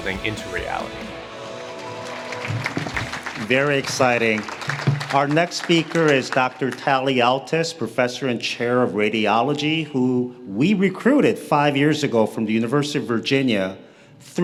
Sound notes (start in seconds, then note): 1.5 audience claps